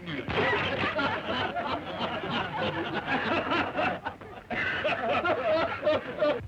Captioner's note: laughter